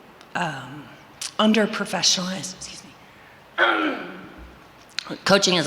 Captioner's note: clears throat